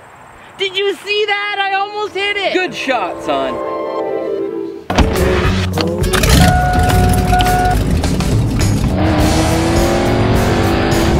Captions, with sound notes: Did you see that, I almost hit it! - Good shot, son. (car engine starts) (upbeat music)